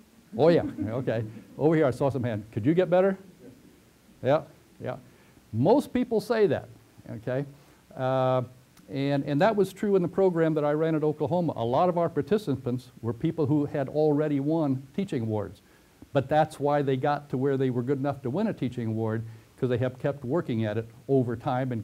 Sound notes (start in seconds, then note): 5.1 pause